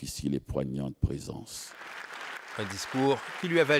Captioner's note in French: applaudissements